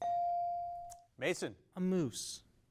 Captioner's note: bell dings